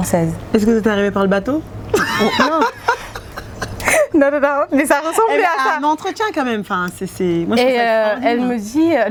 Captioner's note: laughs